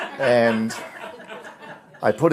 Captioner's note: laughter